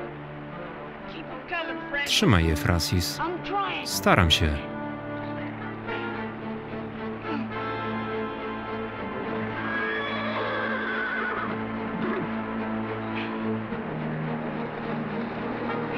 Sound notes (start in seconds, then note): 4.8 tense music; 9.7 horse whinnying